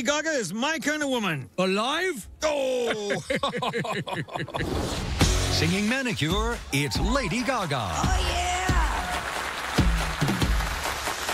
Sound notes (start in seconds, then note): 2.8 both laugh